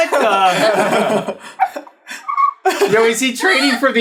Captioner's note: all laughing